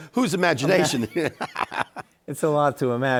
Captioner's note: both laughing; laughs